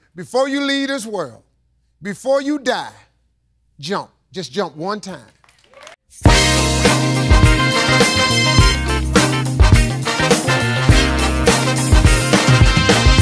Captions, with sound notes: Before you leave this world, before you die, jump. Just jump one time. (audience applauding) (upbeat music)